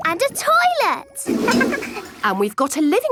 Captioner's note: toilet flush